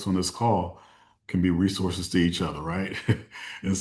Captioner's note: chuckles